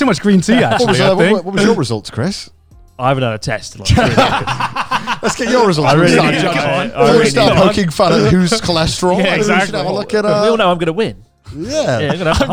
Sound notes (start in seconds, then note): 3.8 laughs